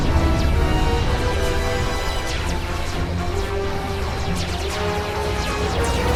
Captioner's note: sounds of battle